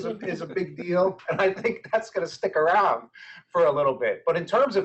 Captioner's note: laughing